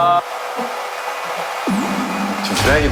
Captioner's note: whirring